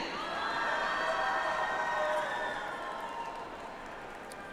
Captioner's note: audience applauds